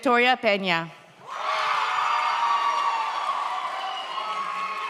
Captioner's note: audience cheers